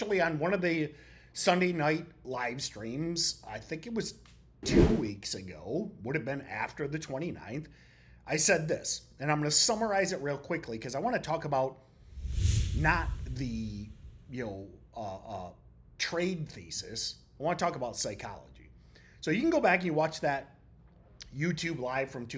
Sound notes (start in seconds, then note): 4.6 text whooshing; 12.0 text whooshing